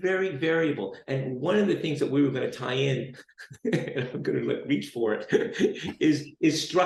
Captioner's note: chuckles